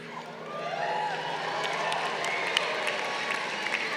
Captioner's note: crowd cheering